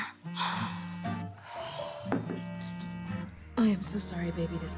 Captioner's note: phone vibrating